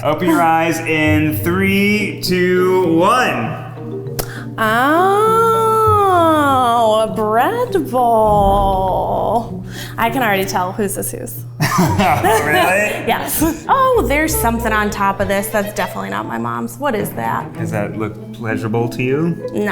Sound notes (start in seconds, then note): 11.6 laughs